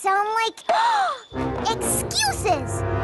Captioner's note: gasps